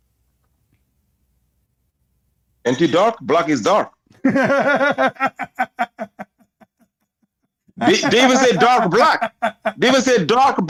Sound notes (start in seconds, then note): 4.1 Ketawa